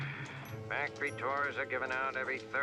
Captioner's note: sighs